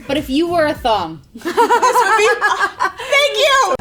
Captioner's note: laughing